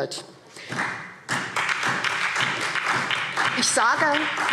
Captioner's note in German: Beifall SPD